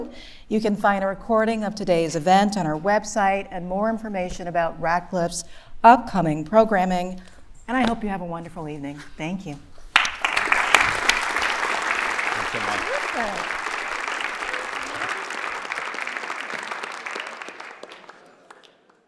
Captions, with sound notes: You can find the recording of today's event on our website and more information about Radcliffe's upcoming programming, and I hope you have a wonderful evening. Thank you. [applause] - Thanks so much. - Terrific. That was really good. - Thank you. - Really wonderful. Thank you.